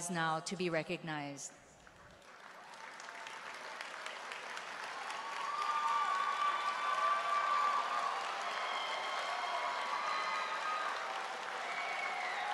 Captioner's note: applause